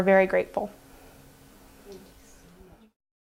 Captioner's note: silent